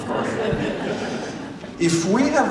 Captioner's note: laughter